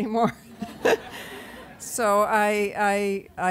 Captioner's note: laughter